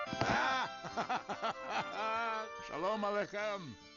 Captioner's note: laughing